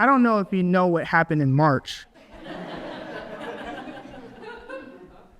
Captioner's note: audience laughs